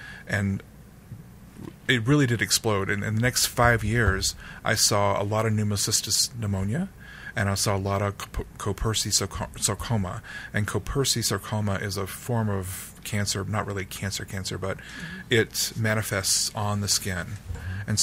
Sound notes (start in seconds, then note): none